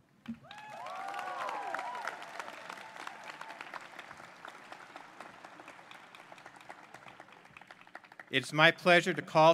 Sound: applause

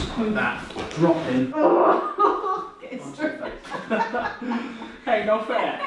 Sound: groans, laughs

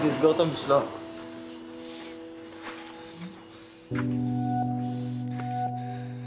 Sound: heavy breathing

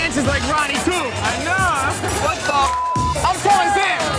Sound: beep

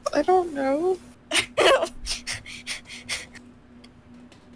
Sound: laughing i think? breathing a lot

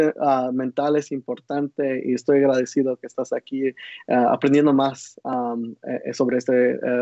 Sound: speaking Spanish

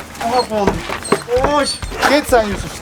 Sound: petting voice

